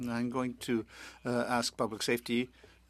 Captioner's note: speaking French